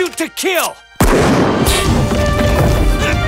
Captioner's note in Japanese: 銃声